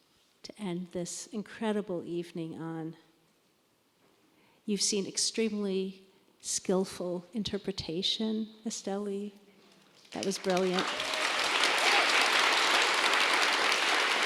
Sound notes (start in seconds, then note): 9.9 applause